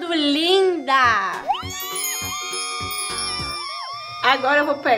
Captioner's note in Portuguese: Som de brilho; Gritos de comemoração